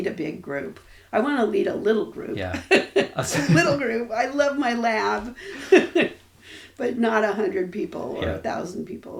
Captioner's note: laughs